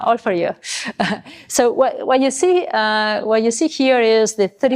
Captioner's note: chuckles